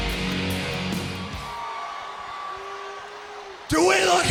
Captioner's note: audience cheers